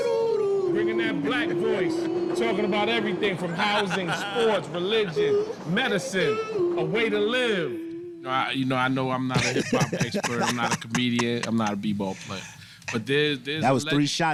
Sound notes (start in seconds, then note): 9.3 man laughing